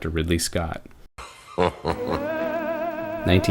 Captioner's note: laughs